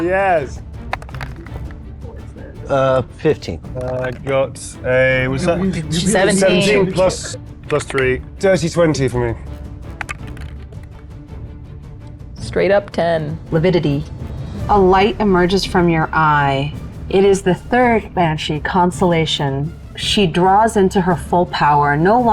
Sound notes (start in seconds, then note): 3.5 die rattling; 12.4 die rattling